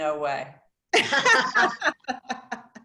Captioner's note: laughter